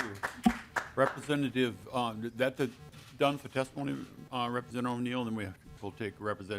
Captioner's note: applause